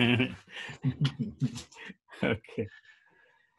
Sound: chuckling

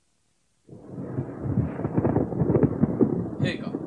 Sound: SFX: thunder

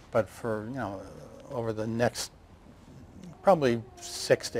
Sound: none

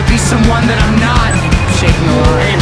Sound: telephone ring

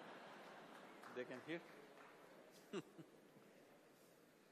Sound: laughs

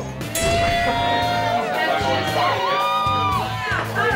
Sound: crowd cheering

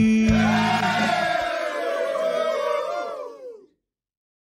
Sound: cheering

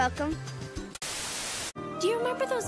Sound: TV static

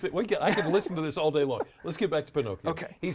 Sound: laughter

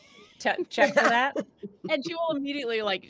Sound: group laughing

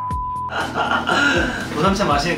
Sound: laughing out loud

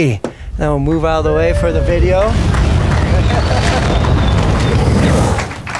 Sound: applause

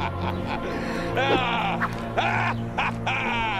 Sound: wooshing

